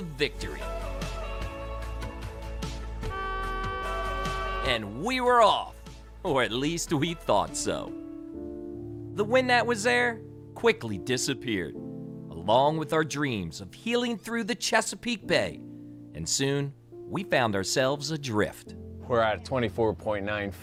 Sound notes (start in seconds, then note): 0.1 soft music; 2.7 horn blares